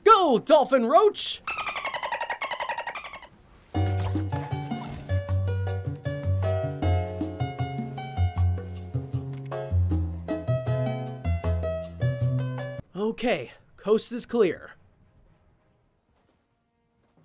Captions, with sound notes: Go, dolphin Roach. (dolphin vocalizing) (upbeat music) Okay, coast is clear.